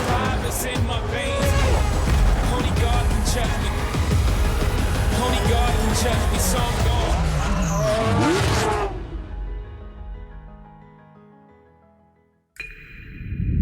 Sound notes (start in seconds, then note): 0.0 continues playing